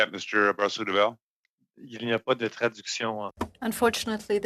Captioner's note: speaking French